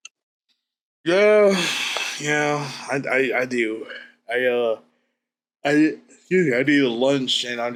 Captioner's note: sighs